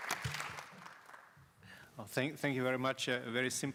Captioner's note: applause